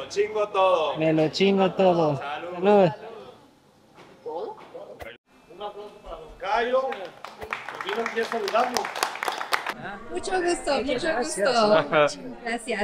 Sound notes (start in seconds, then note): 4.0 speaking Spanish; 6.8 applause